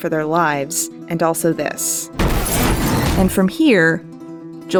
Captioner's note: crashing sounds